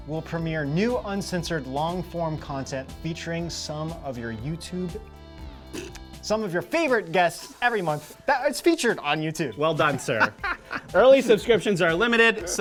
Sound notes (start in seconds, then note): 9.8 laughs